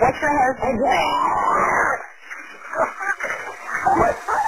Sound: screaming; screaming

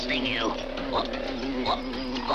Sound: hums

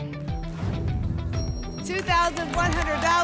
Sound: whoosh; applause and cheering

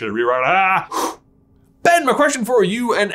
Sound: breaths out

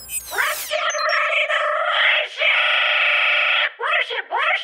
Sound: computer Voice

